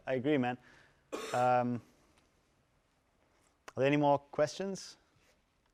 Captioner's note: cough